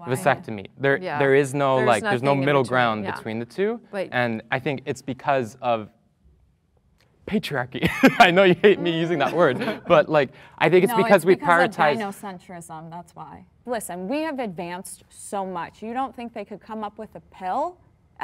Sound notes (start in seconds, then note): 7.8 laughs